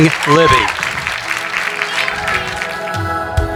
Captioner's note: applauding; soft music